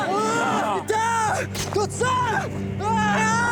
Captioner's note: shouting in native language